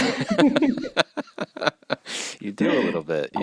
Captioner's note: laughs